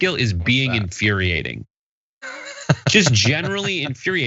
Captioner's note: laugh